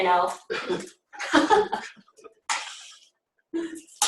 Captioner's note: laughter